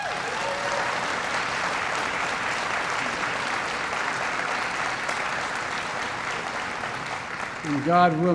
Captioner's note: applause